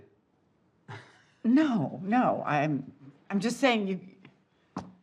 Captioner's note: chuckles